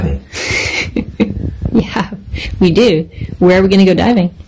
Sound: snickers

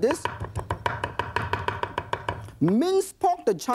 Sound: chopping

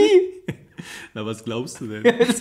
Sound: laughs

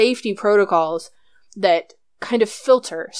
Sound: none

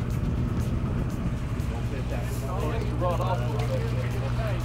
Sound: indistinct chatter

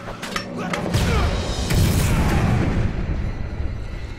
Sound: explosions

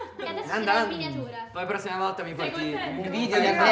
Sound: laughs

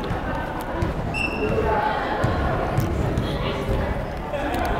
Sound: whistle blows

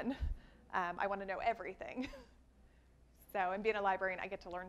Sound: laughs

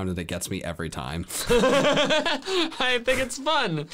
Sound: laughing

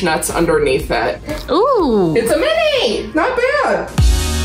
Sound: exclaims; upbeat music

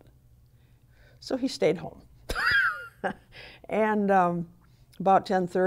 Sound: laughs

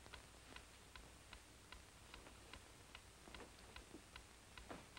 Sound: clock ticking

